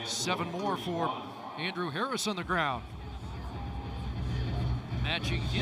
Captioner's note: whistle